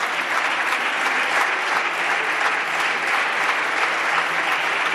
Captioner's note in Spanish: Aplausos